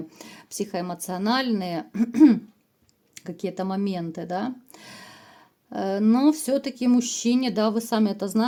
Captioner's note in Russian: откашливается